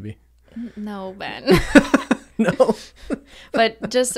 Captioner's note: they laugh